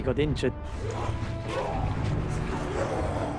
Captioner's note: grunting